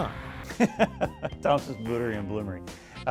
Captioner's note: laughing